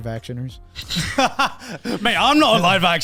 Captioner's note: laughs